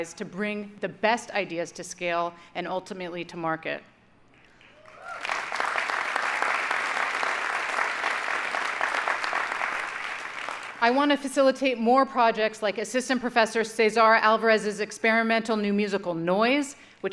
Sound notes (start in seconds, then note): 4.8 audience applauding